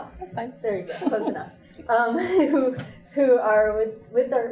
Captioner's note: laughs